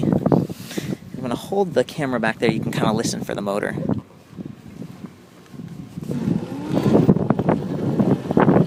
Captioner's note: motor sounds